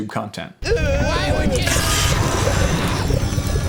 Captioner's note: screaming